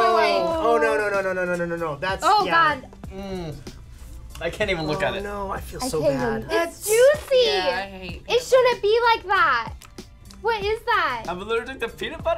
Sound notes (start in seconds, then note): 3.0 groaning